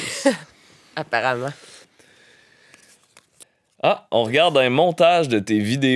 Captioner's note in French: rire d'